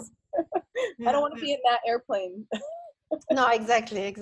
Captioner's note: laughs